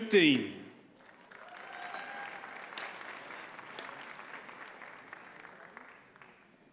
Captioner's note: audience cheers and applauds